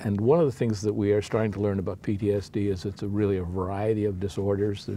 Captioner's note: none